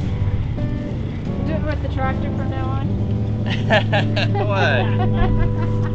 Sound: laughter

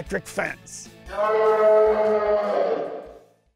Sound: dinosaur growling

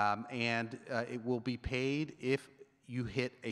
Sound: none

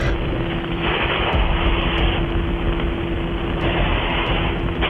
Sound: radio static

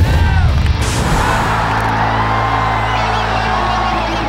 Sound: crowd cheers

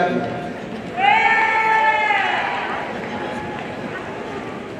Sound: audience cheering

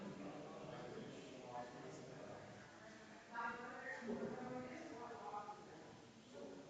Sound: people chattering distantly continues

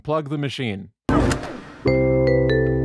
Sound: unplug, electronics power down

